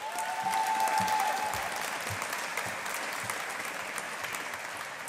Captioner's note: audience applauding